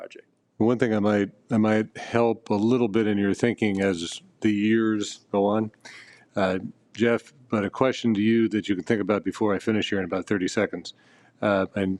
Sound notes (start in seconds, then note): none